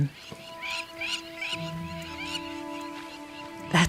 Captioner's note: birds calling; animals calling